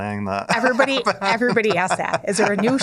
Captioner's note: laughs